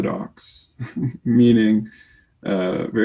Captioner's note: chuckles quietly